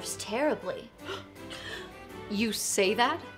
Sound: gasp

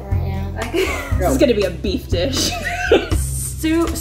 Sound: laughs

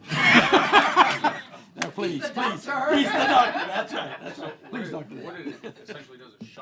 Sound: laughter

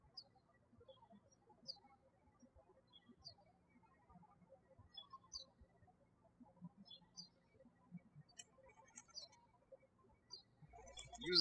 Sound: birds chirping

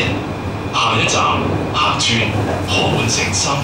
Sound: Cantonese

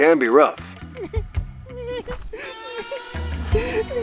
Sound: pathetic whimpering

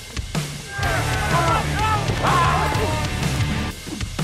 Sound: yelling

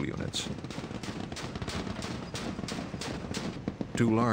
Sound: continuous gunfire

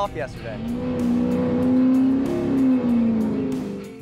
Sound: jetboat sounds

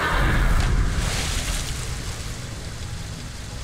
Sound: splash

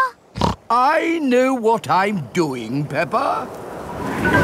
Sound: snorts

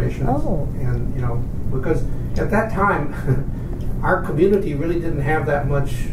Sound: laughs

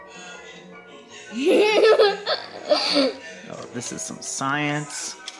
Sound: giggles

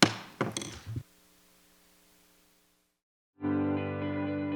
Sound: gavel knocks; cheerful music

